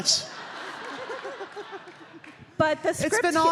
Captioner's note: audience laughing